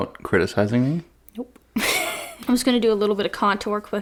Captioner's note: laughs